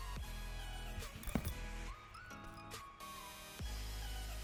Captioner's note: foot thuds